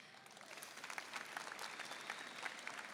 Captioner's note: applause